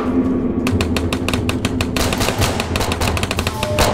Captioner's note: gunshots firing